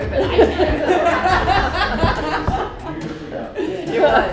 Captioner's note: group laughing